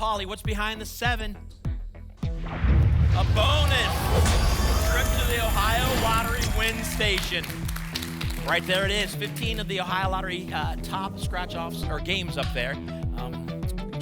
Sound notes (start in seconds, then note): 2.4 boom; 2.4 whoosh